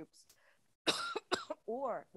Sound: coughs

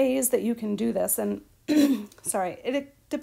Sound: clears throat

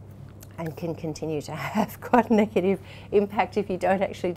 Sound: laughs

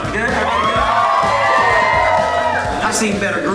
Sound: cheering

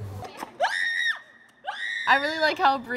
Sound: screaming

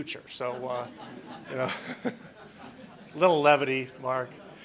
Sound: laughter

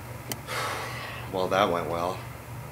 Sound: sigh

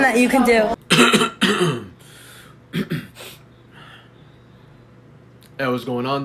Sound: clears throat

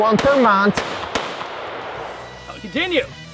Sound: rifle firing

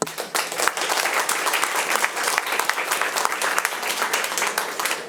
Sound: audience applauding

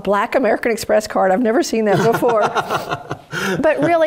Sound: laugh

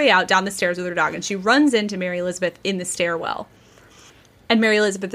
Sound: none

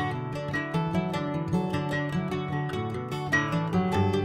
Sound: none

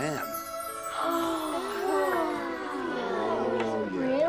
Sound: gasping

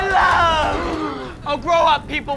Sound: gasps

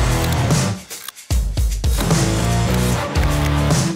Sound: tools clicking

